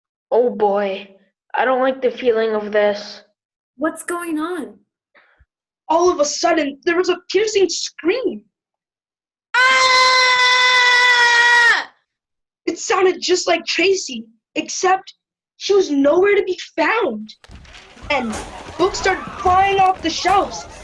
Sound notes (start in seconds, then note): 9.5 scream